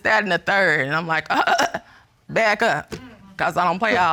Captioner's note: splutters